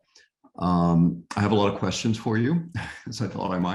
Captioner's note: chuckles